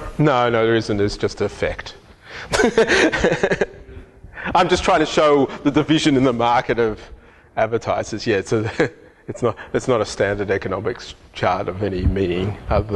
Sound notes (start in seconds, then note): 2.4 laughs